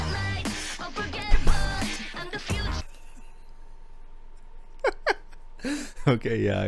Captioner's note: laughter